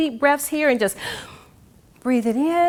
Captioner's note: gasps